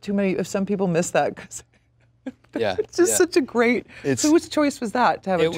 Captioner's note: laughs